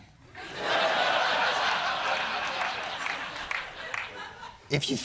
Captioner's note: laughter